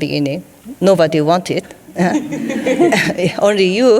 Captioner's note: some laughing